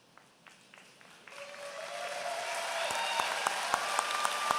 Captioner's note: applause